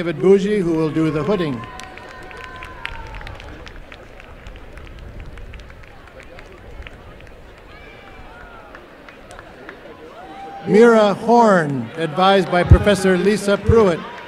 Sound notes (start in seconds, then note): 0.4 applause and cheering